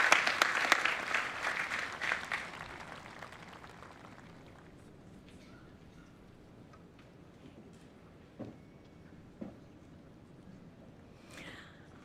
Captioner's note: applause